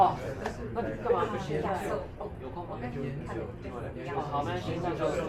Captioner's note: speaking in foreign language